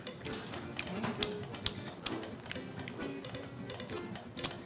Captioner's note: chewing loudly